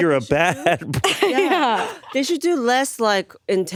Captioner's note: laughs